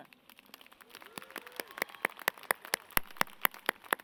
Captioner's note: audience claps